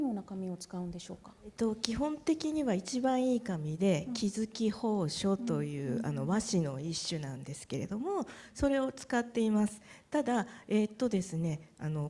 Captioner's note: speaking japanese